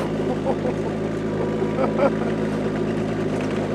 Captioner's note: laughing